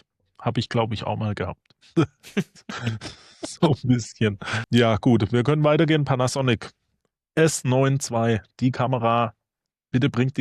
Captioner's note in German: gelächter